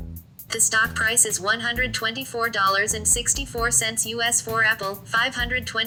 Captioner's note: voiceover